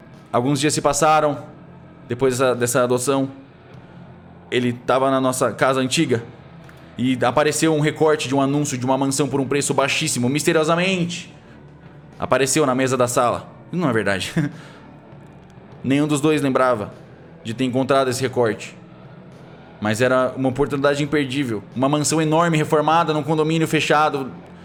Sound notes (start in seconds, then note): 14.3 nervous laughter